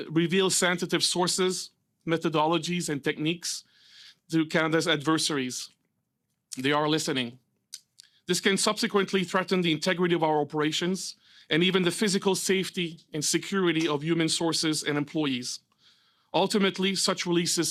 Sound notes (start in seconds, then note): 3.6 speaking French